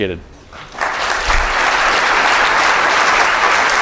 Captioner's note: audience applause